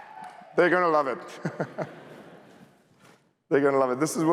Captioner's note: laughter